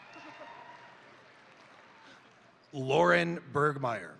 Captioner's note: crowd applauding; crowd cheering